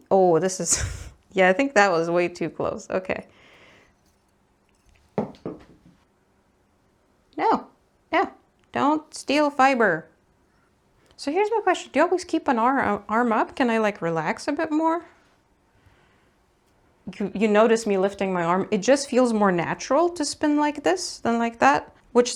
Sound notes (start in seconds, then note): 1.0 giggles; 5.0 cruel gravity noises